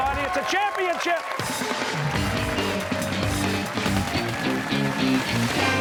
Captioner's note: cheers and applause